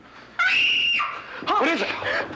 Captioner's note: Holly screaming